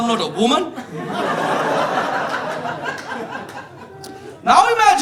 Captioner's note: audience laughing